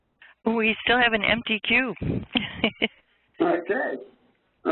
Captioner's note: chuckles